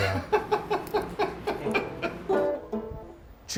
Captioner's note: laughter